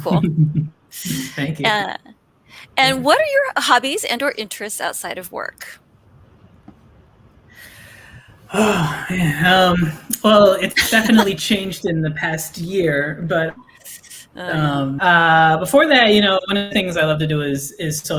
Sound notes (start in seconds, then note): 0.0 chuckles; 7.6 sighs